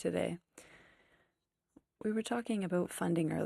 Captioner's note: speaking FRENCH